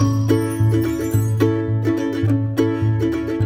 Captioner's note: sparkle noise